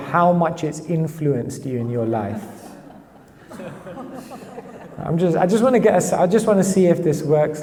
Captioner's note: audience laughs